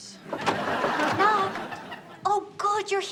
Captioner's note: door opens